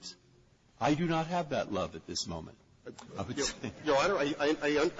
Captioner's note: laughter